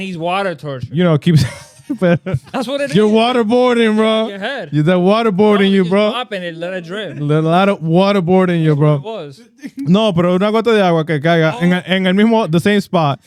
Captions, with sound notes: I need water torture. You know, it keeps-- (Laughing) That's what it is. You're waterboarding, bro. You're head. You're waterboarding, bro. I was just mopping it, let it drip. A lot of waterboarding, bro. That's what it was. No, bro, (Speaking In Foreign Language) the same spot.